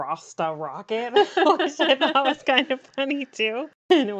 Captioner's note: laughs